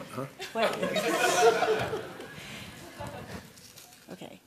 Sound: laughter

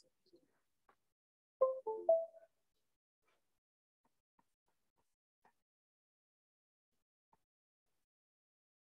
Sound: silence

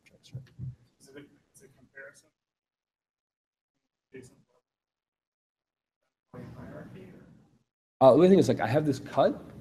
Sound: audio cuts out

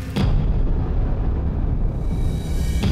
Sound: thunder

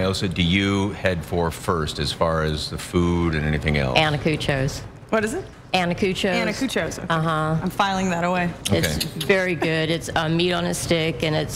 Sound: laughter

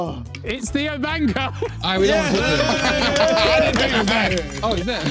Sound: everyone cheering

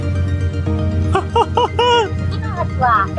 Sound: laughs

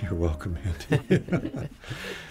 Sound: all laugh

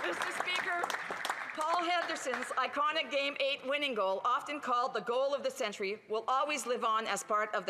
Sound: applause

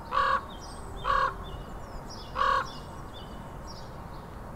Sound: squawking

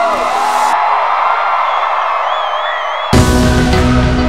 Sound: cheering

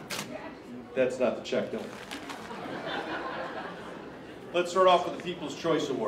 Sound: laughter

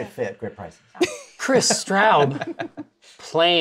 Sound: laughter

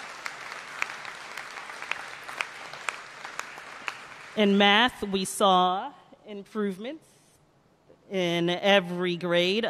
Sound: applause

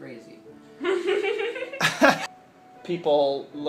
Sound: they laugh

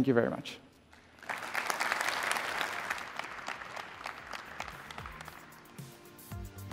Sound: applause

